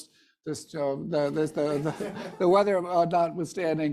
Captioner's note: audience laughing